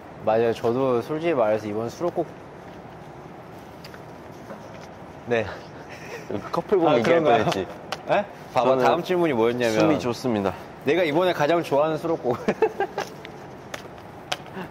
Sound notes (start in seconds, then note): 8.4 shuffling